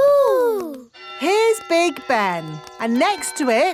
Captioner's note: clock chimes